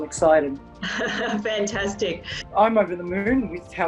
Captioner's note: chuckles